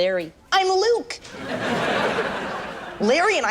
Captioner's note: audience laughs